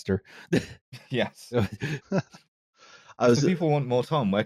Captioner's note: laughter